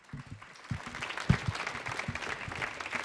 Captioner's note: audience applause